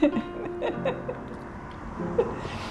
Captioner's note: laughing